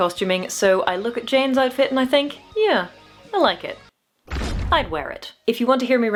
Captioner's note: thud